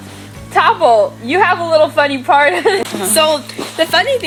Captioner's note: laughter